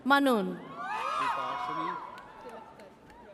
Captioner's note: audience cheers